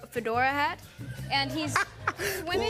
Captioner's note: laughter